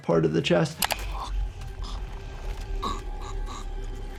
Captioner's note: person gurgles